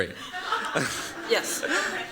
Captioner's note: laughter